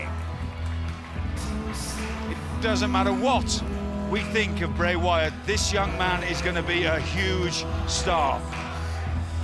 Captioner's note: crowd cheering